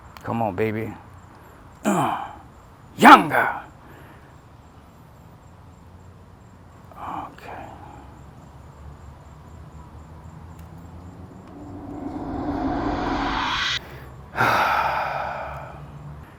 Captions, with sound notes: Come on, baby. Yonga! Okay. *Deep sigh*